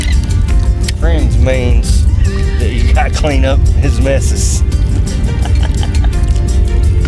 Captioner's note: laughs